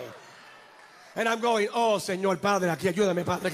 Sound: speaks foreign language

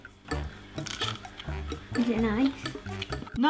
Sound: bean crunching

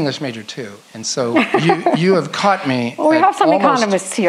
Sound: laughs

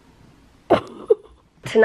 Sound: giggling

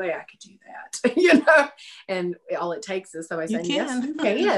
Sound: laughing

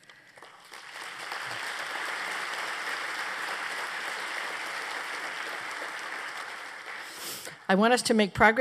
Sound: applause

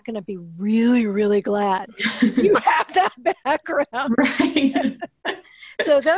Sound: laughs

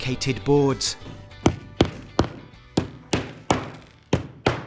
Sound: hammer banging

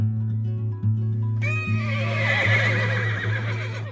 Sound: horses neighing

